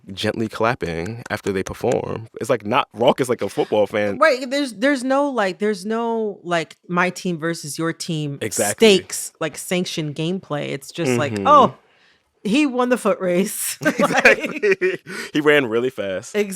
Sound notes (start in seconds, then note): 13.8 laughter